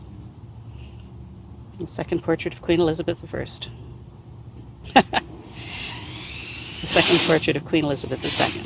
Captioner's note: laughs